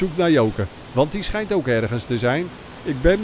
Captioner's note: voiceover